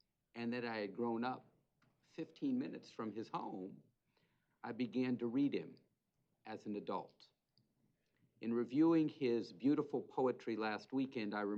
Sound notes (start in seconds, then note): none